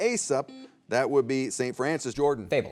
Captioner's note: buzzer beeps